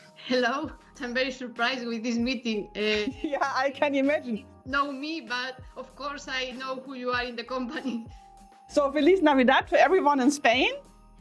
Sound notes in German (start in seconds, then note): 7.9 lacht